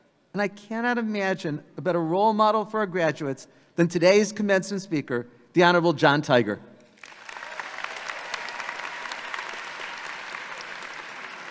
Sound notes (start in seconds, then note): 6.9 audience applauding